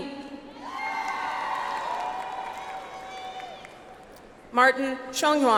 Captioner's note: audience applauds